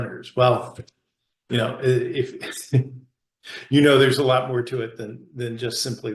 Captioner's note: chuckles